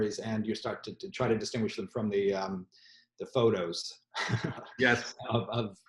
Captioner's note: laughs